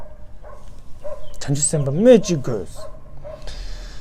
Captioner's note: tibetan